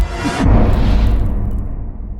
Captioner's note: impact